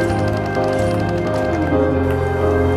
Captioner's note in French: Bruit de jeu vidéo